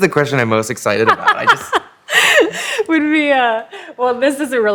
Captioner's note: laughs